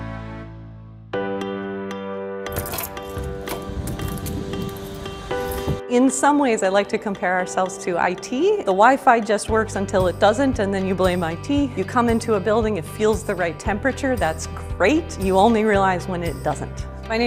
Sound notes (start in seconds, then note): 1.2 upbeat music; 2.5 keys jingling